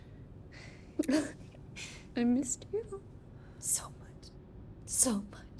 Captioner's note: sobs